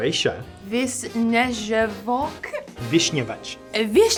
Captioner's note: woman speaking in foreign language; man speaking in foreign language